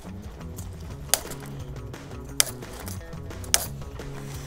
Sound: snipping

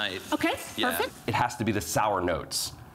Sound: none

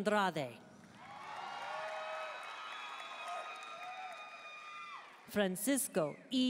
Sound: audience cheering and applauding

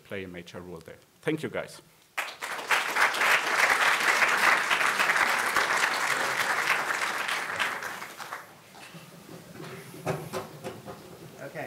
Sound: audience applause

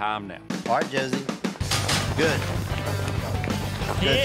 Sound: gate clangs open

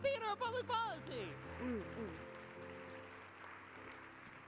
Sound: audience applause

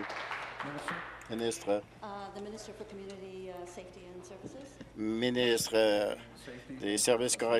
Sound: applause

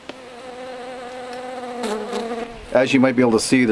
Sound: insects buzzing

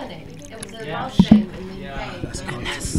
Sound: coke going into cup

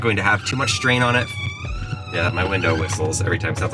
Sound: window squeaking

